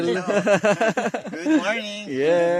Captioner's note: laughing